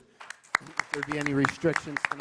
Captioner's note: applause